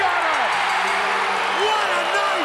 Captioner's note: crowd cheers